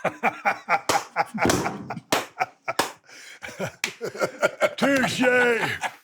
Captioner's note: Stone Cold laughs